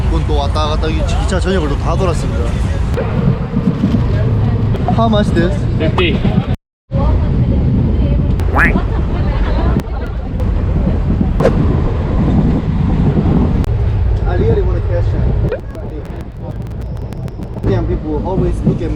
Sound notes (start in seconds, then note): 8.4 eating